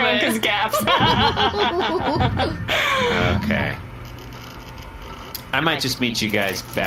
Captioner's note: laughing